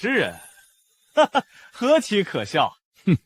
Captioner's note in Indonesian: Haha